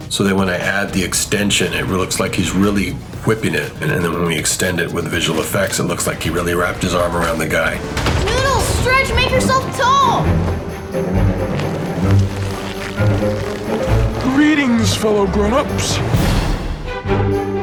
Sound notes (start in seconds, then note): 11.9 arm creaking